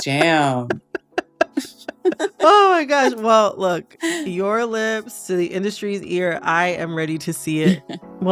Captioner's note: laughter